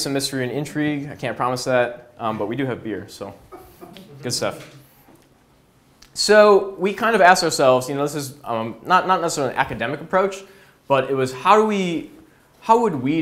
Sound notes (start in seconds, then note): 4.0 audience laughs